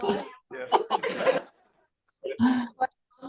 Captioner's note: laughter